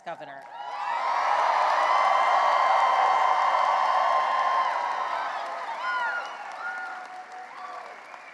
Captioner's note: cheering and applause